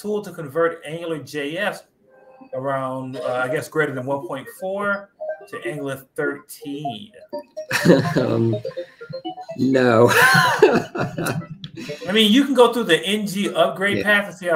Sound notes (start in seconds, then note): 9.7 laughs